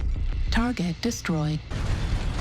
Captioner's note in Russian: лазеры еле слышно гудят; подборка вялых звуков оружия